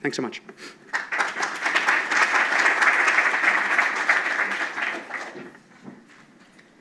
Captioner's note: applause